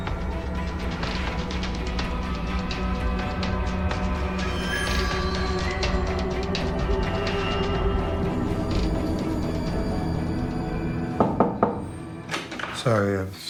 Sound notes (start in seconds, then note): 12.2 hollow knocking, door unlatching; 12.3 music ceases